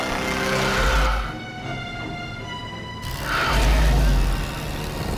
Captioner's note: creature screeches